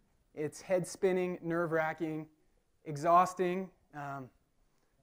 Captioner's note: none